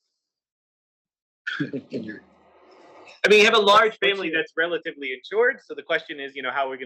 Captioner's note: laugh